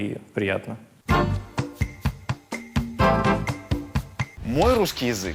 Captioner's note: ad in russian